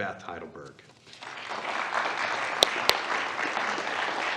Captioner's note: applause